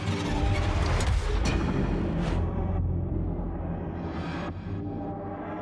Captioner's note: eerie sounds continue